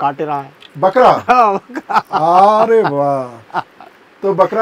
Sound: laughs

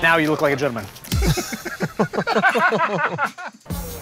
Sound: laughter

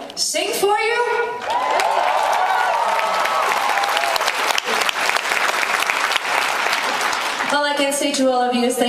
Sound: cheering

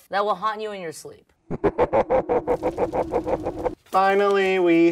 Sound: Sherry laughing

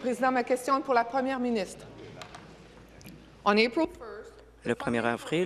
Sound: speaking in French

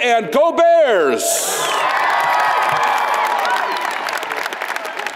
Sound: audience applauds

